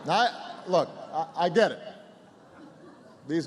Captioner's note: laughter